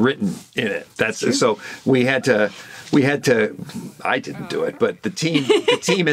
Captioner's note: laughs